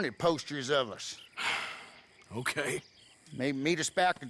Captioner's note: sighs